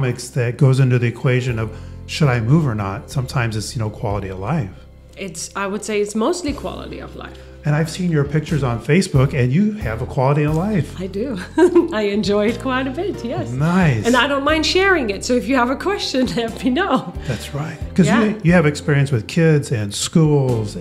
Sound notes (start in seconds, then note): 11.4 chuckles